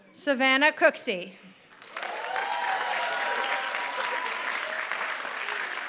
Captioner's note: applause